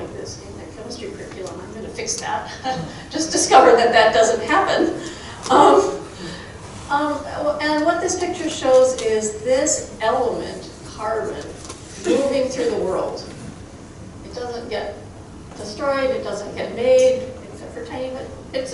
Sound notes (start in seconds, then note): 2.4 chuckling